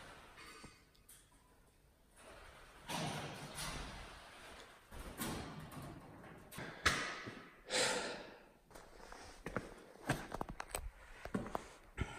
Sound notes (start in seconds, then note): 2.8 metal clanking; 7.6 deep sigh